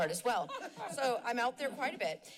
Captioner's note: laughs